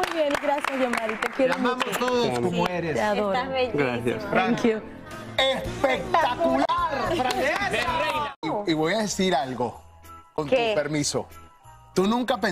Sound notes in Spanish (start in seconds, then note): 3.1 aplausos; 3.1 habla en ingés